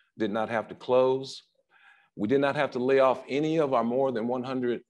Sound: none

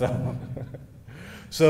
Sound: laughing

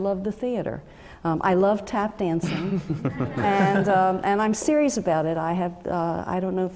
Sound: laugh

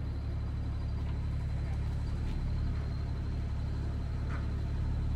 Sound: machine engine rumbling

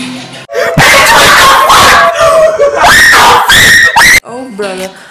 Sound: scared Screaming

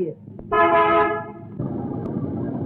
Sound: horn blares

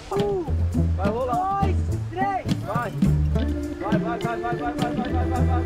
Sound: speaking in foreign language

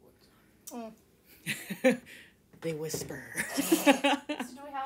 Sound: laughter

